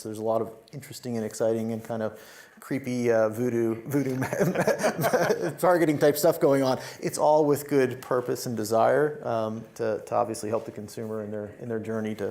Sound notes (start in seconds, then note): 4.1 laughs